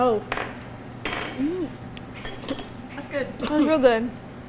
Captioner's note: spoon clattering